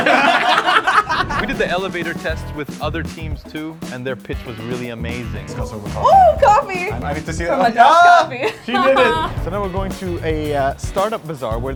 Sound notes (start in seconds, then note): 0.0 all laugh; 8.4 laughs